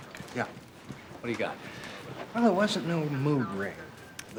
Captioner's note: none